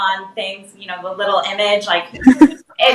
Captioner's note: laughs